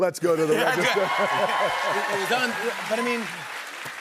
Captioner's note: cheers and applause